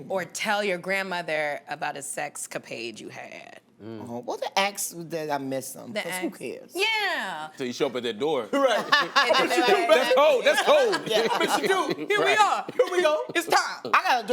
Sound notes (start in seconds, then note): 8.6 laughter